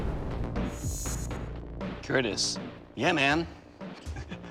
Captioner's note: chuckles